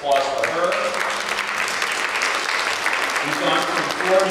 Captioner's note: applause